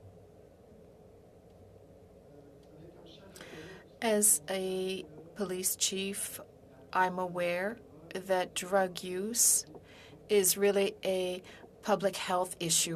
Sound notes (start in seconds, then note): 8.5 speaking in French